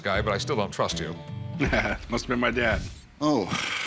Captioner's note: laughs